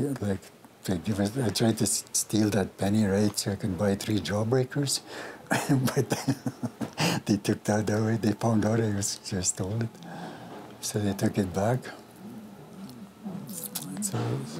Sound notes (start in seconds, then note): 5.5 laughs